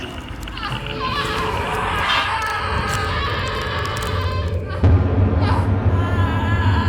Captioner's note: bones cracking; Lori screaming